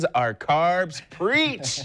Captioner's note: laughs